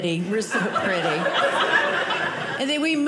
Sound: audience laughing

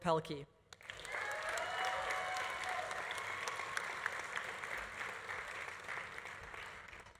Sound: audience applauding; audience cheering

